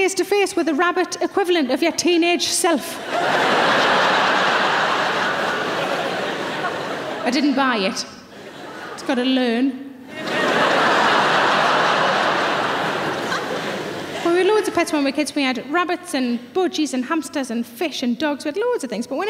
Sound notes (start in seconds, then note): 3.0 audience laughing; 10.0 audience laughing